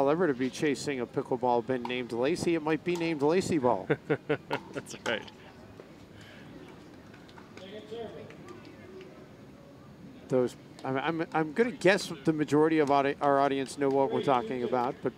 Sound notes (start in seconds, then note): 3.8 laughing